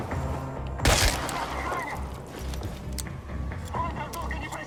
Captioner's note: speaking Russian